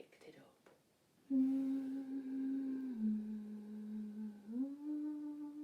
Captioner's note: soft eerie humming